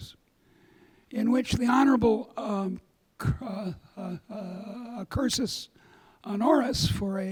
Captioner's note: speaks a foreign language